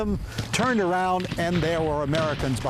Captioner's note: guns firing